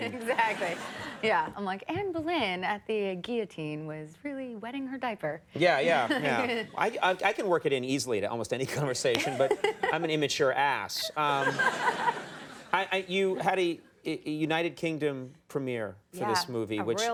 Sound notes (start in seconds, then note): 0.0 laughing; 11.0 audience laughing